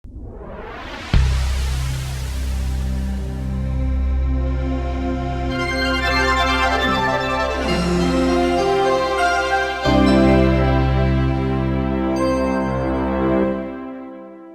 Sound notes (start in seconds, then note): 0.0 whooshing; 3.3 humming; 6.2 pleasant music